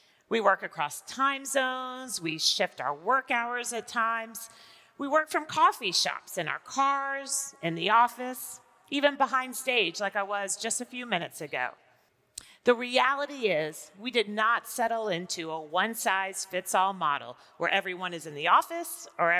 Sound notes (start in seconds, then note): none